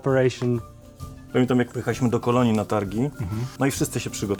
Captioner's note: in Polish